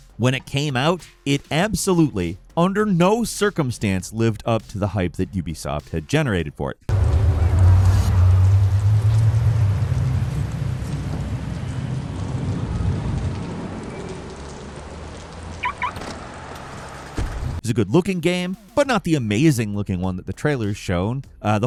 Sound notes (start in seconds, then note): 6.9 passersby chattering; 6.9 traffic whirring; 10.4 rain pattering; 15.6 car beeping